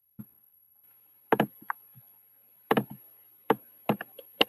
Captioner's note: tapping